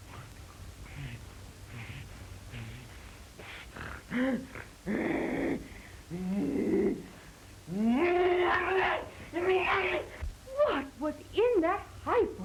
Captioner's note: grunting